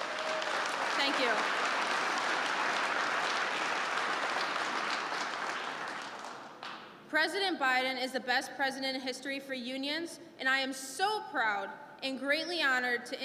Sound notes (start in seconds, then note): 4.1 applause